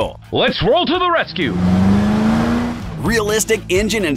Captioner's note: car engine sound